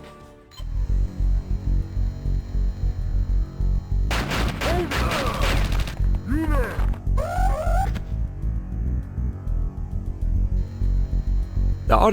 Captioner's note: game sounds